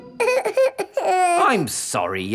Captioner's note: whimpers